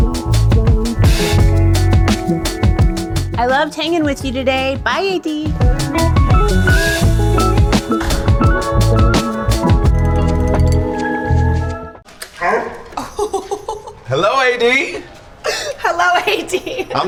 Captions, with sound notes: I loved hanging with you today. Bye, AD. [Chrissy laughs] - Hello, AD. - Hello, AD.